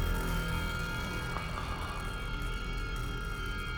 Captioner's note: sighs